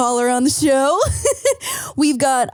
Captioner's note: laughing